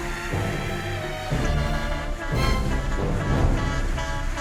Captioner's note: horn honking